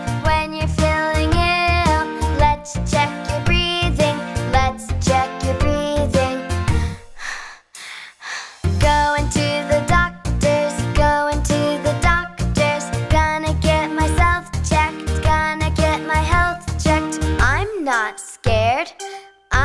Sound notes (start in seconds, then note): 6.7 exhales